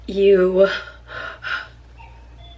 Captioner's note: breathing heavily